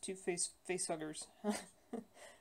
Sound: laugh

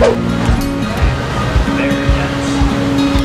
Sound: swooshing; clink

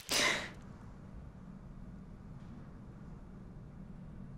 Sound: gasping

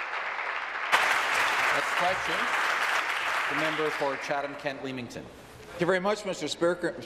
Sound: applause

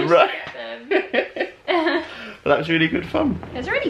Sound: laughter

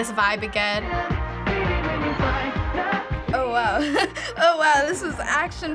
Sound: chuckles

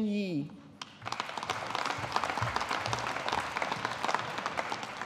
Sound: audience applauding

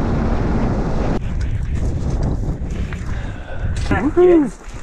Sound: wind howling

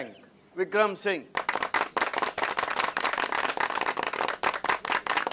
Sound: clapping

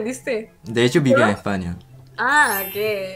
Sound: Spanish

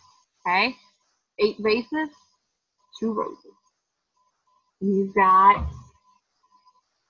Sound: humming

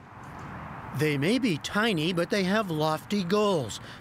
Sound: voice-over

